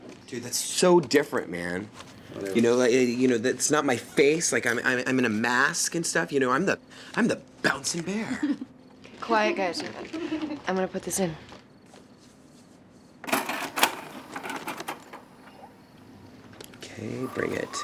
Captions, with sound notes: - Dude, that's so different, man. You know, that's not my face. Like, I'm in a mask and stuff. You know, I'm the bouncing bear. - Quiet, guys. I'm gonna put this in. (VHR rattling) - Okay, bring it.